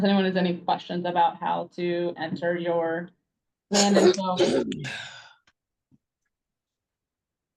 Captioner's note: students sneezes